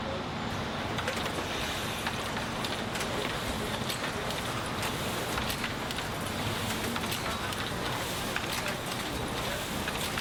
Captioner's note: printing press whirs